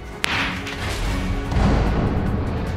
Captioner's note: gavel bangs